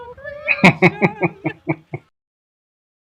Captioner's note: laughing